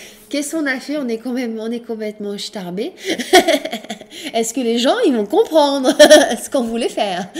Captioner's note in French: rires